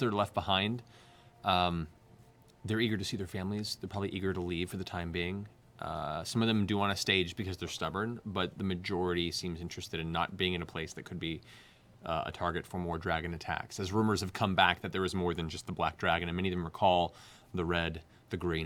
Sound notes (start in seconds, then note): none